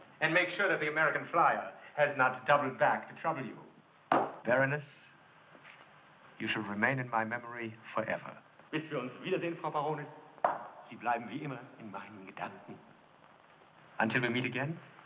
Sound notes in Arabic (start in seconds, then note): 8.7 الصوت المنطوق باللغة الألمانية